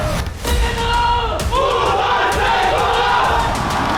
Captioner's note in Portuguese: grito de guerra